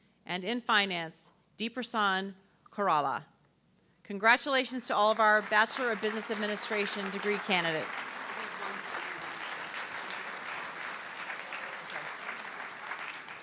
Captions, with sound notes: and in Finance, Depasan Coralla. Congratulations to all of our Bachelor of Business Administration degree candidates. (audience clapping)